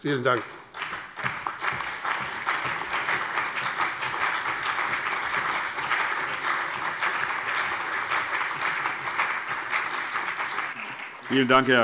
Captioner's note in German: Beifall BÜNDNIS 90/DIE GRÜNEN, CDU, SPD und vereinzelt AfD